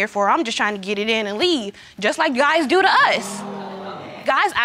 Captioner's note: audience exclaiming